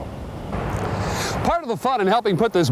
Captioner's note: voiceover